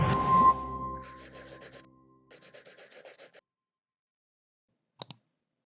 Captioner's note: light music; pencil scratching